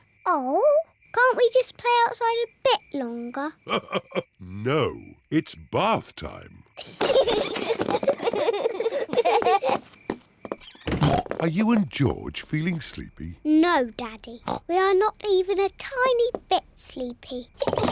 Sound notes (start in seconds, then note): 3.8 laughs; 6.7 peppa and george giggle